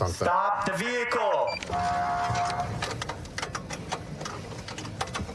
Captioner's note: horn blaring